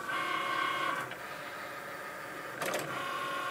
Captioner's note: whirring